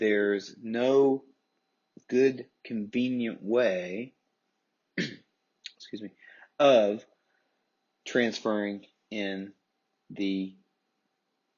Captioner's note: coughs